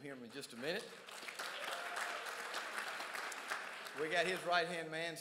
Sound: crowd applauds

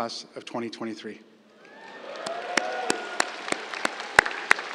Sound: cheers, applause

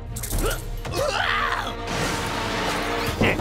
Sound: Fizz screams

